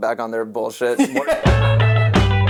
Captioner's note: laughs